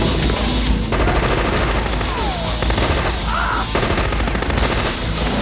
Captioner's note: intense rock music; machine guns firing